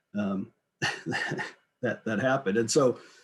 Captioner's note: giggles